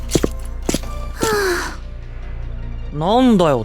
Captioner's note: sigh